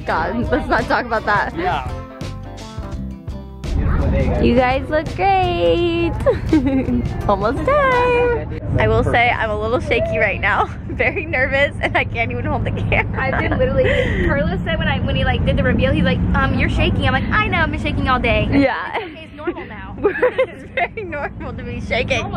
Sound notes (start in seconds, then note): 2.4 light rock music; 6.1 laughs; 18.9 laughs